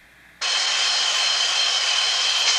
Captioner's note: motor